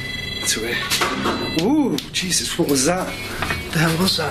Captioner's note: clattering